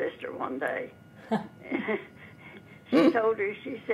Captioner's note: laughing